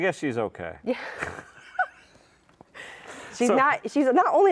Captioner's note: both laugh